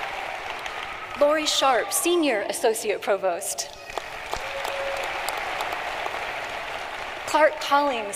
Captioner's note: applause